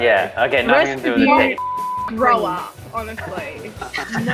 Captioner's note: beeps